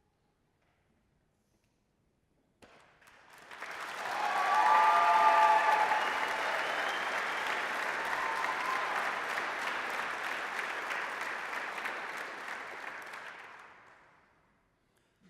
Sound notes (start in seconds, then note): 3.3 applause, cheering; 7.8 applause